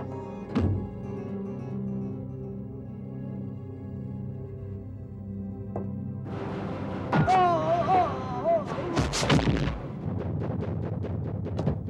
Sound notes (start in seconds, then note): 7.2 groans